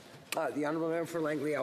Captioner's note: speaking French